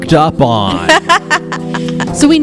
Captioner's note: laughs